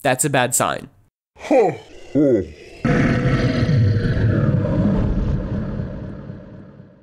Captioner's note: orrible demon noises